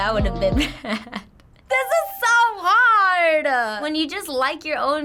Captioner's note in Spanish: risas; Ding